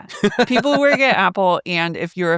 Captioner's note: laughs